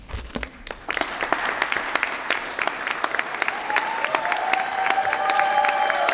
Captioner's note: applause